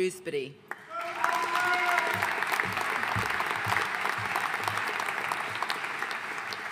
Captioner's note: audience cheering and applauding